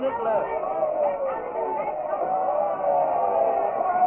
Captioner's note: yelling; cheering